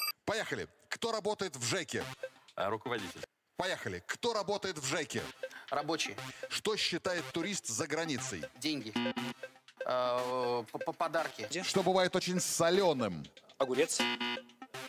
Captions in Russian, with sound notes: –Поехали! Кто работает в ЖЭКе? –Руководитель! –Поехали! Кто работает в ЖЭКе? –Рабочий! –Что считает турист за границей? –Деньги! (пи-пи) –По-по-подарки! –Что бывает очень солёным? –Огурец! (пи-пи)